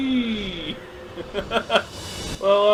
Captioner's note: laughs